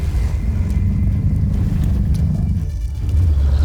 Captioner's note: guttural roar; tense music playing; screeching roar